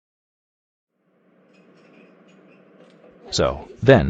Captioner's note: coffee shop chatter